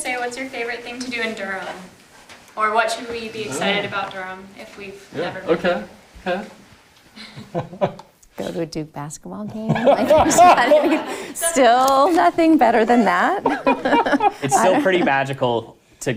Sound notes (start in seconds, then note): 7.2 chuckling; 9.6 audience laughing